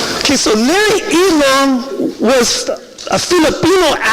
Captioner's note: none